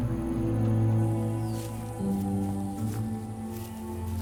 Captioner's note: somber music; grass crunching